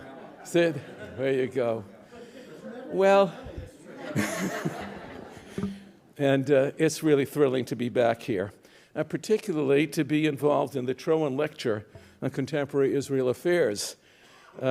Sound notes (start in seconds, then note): 4.2 laughs gently